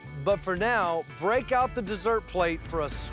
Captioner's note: none